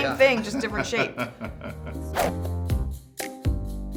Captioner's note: laughter; upbeat music